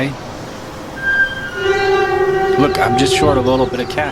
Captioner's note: metallic echoing